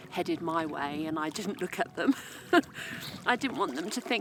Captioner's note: giggle